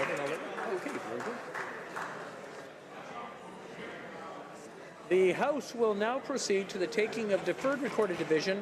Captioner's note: applause